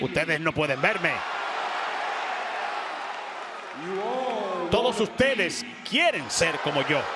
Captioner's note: applause